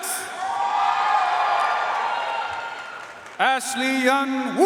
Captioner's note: audience cheering and applauding